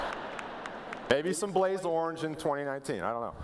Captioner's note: laughter